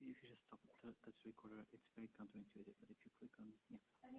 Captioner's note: people talking